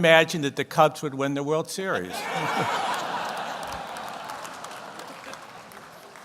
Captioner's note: audience laughs